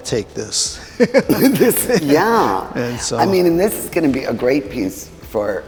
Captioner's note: laughs